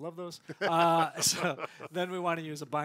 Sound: laughs

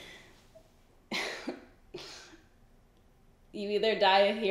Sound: giggles

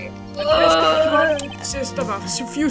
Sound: death noises

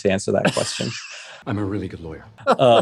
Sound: laughs; both laughs

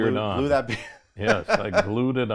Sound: chuckles

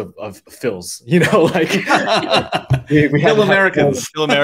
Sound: laugh

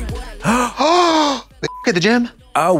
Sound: blonde Women heave; beep

